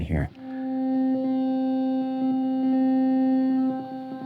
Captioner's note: loud humming